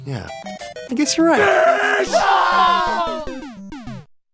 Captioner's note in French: cri de Ian et Anthony